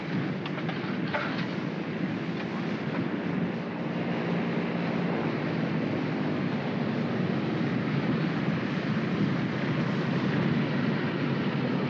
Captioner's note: aircraft rumbles